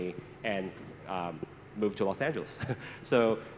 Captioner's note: chuckles